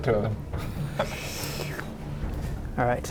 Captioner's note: indifferent drinking